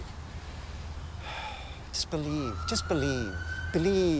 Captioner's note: sighs